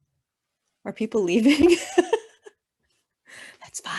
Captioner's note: laughing